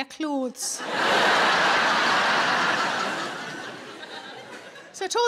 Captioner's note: audience laughing